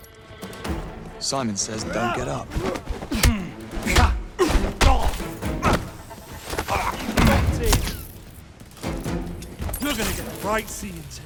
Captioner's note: groaning